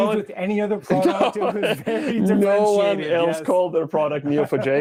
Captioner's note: laughs